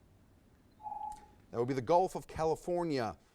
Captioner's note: timer dings